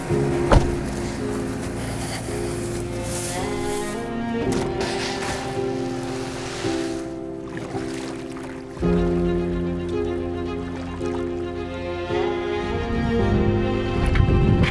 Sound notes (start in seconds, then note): 0.0 car door thudding; 0.0 leaves rustling; 4.8 boat thumping; 4.8 soft water splashing; 8.8 boat engine revving